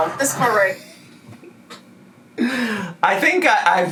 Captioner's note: laughs